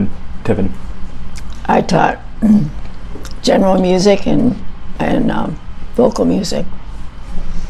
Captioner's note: clears throat